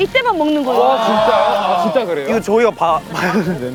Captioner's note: !!!!!!woah!!!!!!